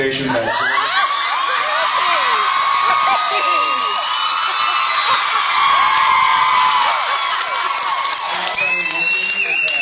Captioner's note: screams and cheers